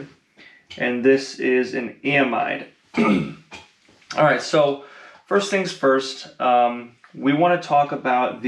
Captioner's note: cough